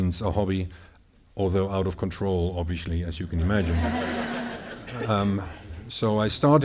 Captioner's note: audience laughing